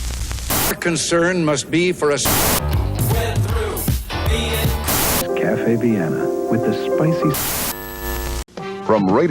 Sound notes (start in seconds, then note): 0.1 static; 4.7 static; 7.4 static; 8.3 beep